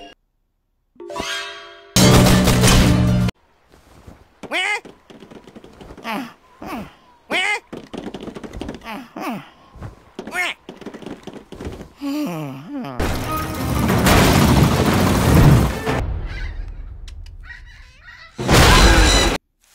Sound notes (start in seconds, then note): 12.0 sighs sleepily; 16.1 birds cawing; 17.3 birds screeching